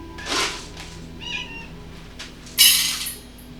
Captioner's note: meow!